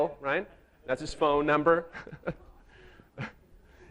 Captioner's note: chuckles